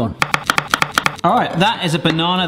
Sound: chopping sounds

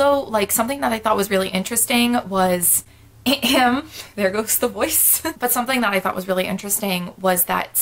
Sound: cough cough

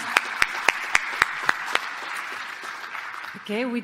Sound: applause

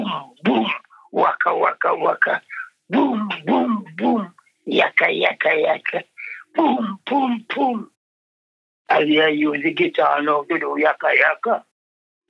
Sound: sound effects mimicking instruments

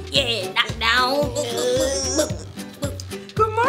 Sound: groaning

